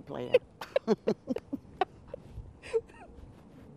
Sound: laughter

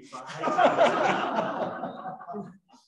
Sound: laughter

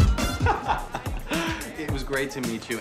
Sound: laughs

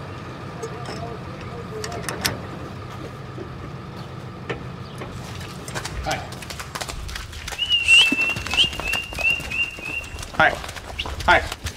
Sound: sounds of machines

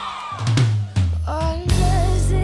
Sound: cheering

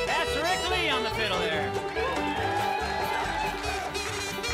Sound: crowd cheering; kazoo music

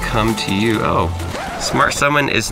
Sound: needle scratches record

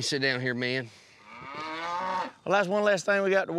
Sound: bull mooing

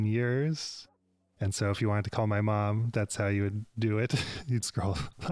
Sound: chuckle

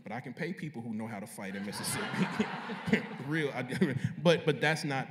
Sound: laughter

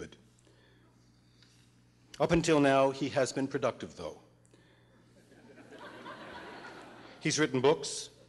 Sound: laughter

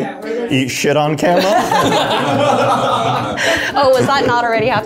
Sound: everybody laughs

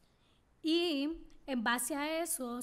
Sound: speaking spanish

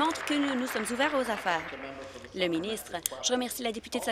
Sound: applause

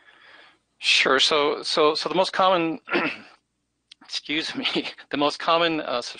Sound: coughs

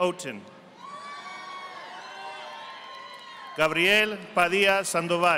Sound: audience applauding

